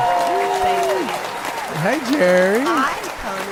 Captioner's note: cheering